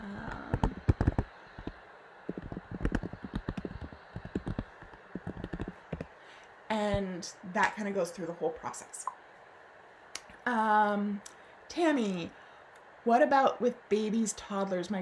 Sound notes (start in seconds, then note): 0.5 typing